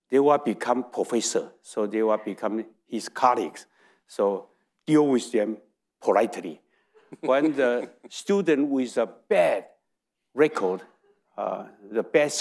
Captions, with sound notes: they will become professor, so they will become his colleagues. So deal with them politely. (audience laughing) When the student with a bad record, the bad score,